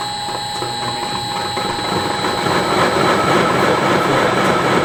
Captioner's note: stones grinding